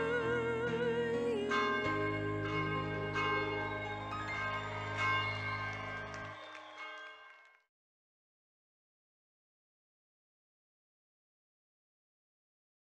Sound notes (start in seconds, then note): 1.4 bell chiming; 5.2 audience clapping and cheering